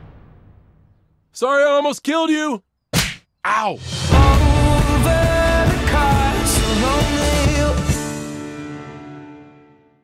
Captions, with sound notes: Sorry I almost killed you! (slap) Ow!